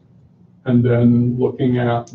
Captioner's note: none